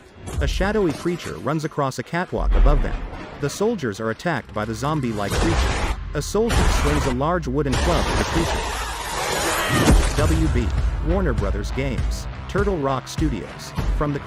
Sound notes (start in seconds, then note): 5.1 creature shrieks; 11.5 suspenseful music playing